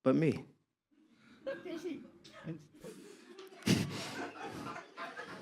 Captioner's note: audience laughs